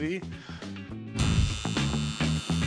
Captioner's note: buzz